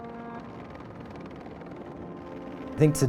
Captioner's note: soft music; helicopter blades whirring